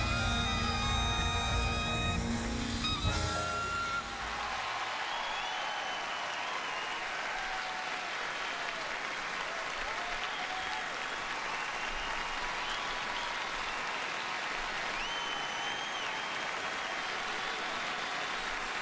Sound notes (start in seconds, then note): 4.3 song ends; 7.2 crowd cheering